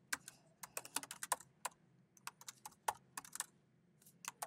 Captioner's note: keyboard clanking